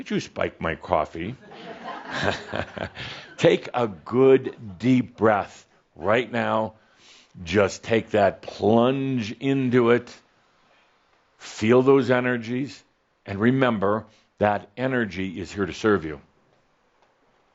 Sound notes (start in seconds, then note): 1.8 some chuckles